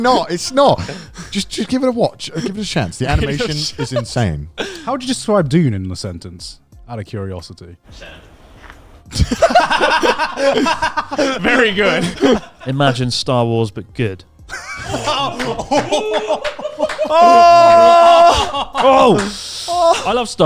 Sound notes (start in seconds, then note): 9.1 all laughing; 14.5 all laughing